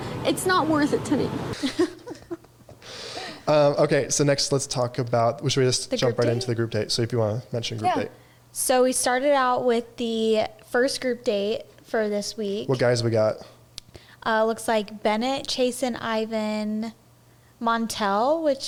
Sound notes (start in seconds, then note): 1.5 all laughing